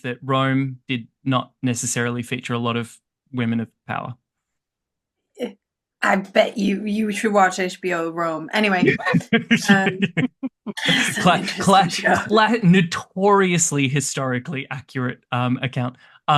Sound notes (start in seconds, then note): 10.8 laughter